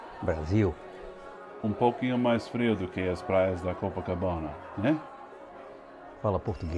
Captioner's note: both speaking in foreign language